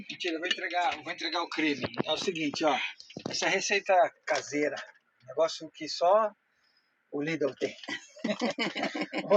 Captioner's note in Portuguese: risadas